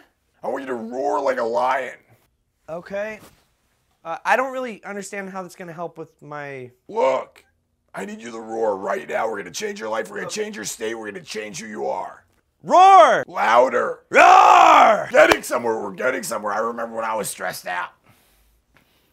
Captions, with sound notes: I want you to roar like a lion. Okay. I don't really understand how that's going to help with my work. Look - I need you to roar right now. We're going to change your life and we're gonna hange your state We're going to change who you are. (meek roar) Louder! (loud roar) Getting somewhere. We're getting somewhere. I remember when I was stressed out